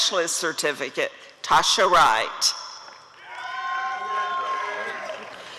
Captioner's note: applause and cheering